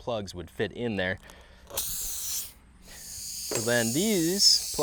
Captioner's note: tire deflating sound